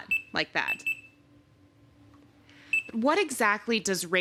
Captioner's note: beeping